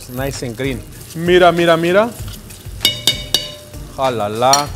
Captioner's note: speaking in foreign language